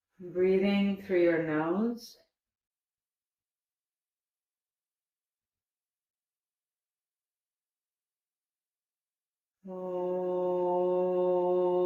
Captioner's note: chanting